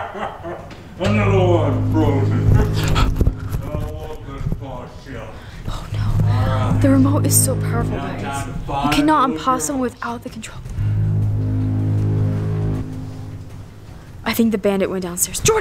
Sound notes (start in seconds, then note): 6.1 whispers; 10.6 suspenseful music